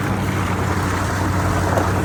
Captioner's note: engine revving